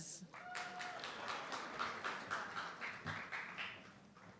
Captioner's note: audience clapping